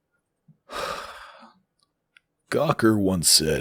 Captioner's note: hooo